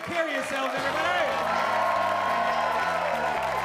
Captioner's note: applause